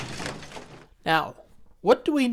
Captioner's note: loud Crash